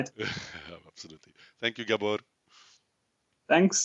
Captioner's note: laughs